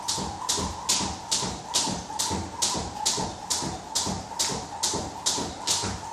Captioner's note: rope whistling continues